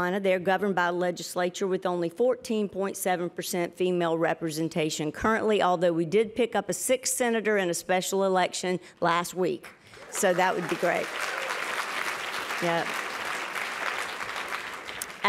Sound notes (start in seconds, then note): 9.8 applause